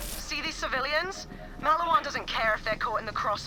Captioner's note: none